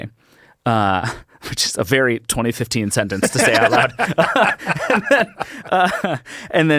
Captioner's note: laughs